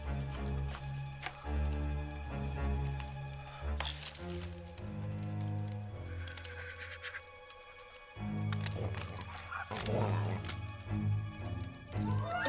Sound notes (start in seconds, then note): 8.6 Ewok growl